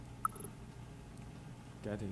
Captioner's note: game beeping